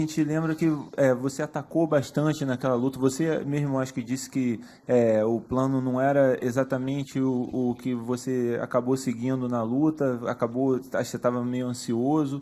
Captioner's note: speaking spanish